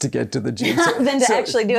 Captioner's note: laughs